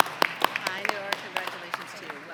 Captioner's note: applause